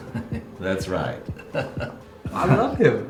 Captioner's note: giggle